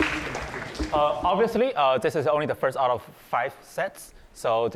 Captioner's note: applause